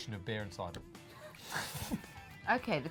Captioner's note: laughs